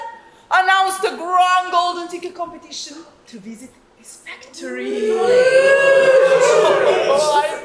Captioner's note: audience oooo's